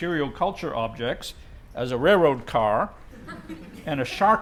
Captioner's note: laugh